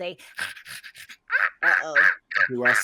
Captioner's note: mimicking squawking